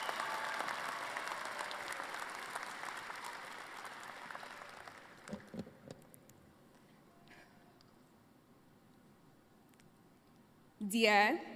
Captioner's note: applause